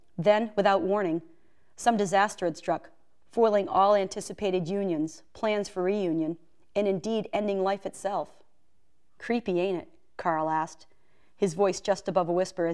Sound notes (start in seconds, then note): none